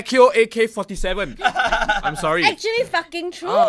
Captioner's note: hits the mic